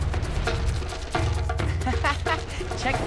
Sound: laughing

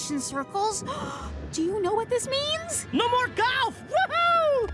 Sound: gasps

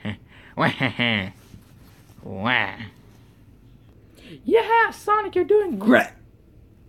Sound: evil laughter

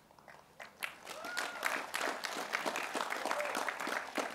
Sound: cheering

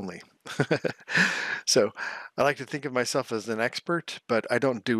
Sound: laughs

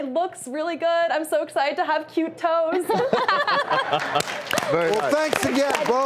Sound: laughs

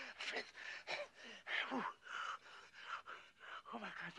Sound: panting

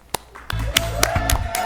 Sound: applause

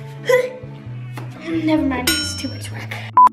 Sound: loud chime

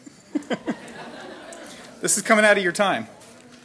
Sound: audience laughing

